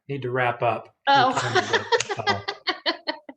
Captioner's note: laughs